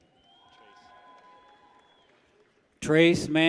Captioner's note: people cheer